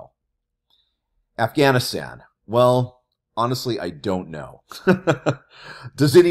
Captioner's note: laughs